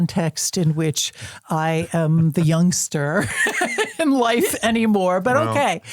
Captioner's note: laughs